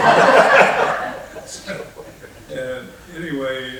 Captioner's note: laughing